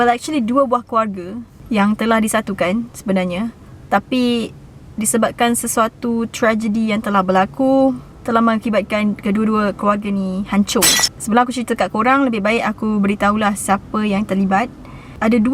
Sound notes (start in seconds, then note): 10.8 sound of glass breaking